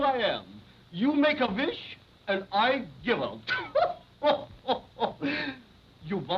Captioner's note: chuckling